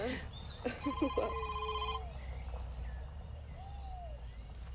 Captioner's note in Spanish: timbre de tel